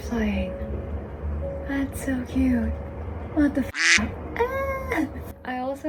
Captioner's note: duck noise